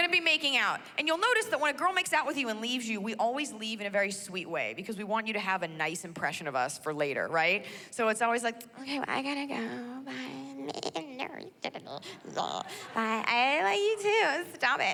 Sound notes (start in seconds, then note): 9.0 mimics baaing